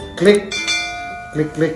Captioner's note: bell